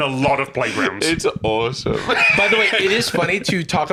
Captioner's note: laughs